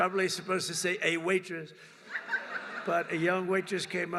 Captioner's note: laughter